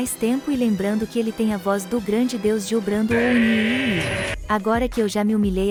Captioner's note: DIO voice in unison